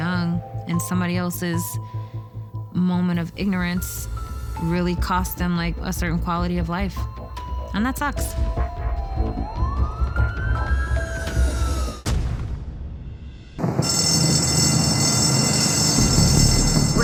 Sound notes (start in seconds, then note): 8.9 siren wailing; 13.8 bell ringing